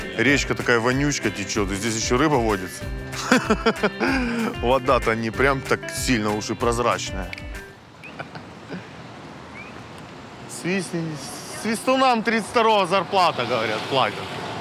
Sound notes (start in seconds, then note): 3.1 laughs; 7.9 someone's whistling